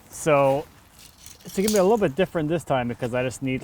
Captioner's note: none